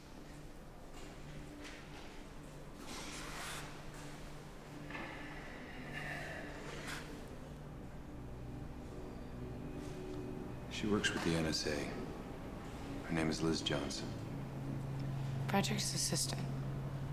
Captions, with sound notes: (sighs) (gentle music) - She works for the NSA. Her name is Liz Johnson. - Frederick's assistant?